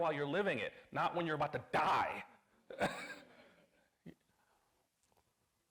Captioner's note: chuckles